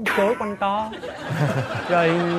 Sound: laughs

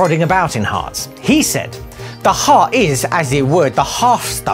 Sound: bad Greek accent

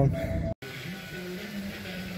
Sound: sound of the fountain

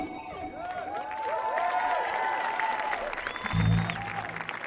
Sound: audience applauding

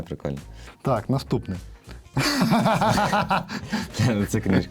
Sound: laughter

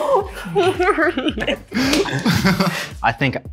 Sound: laughing

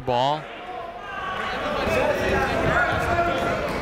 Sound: chatter

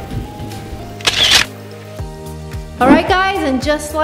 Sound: camera snapping

